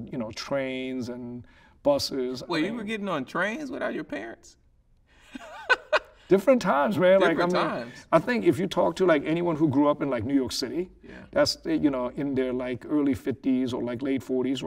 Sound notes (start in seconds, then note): 5.3 laughing